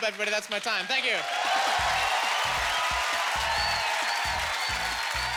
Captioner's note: cheering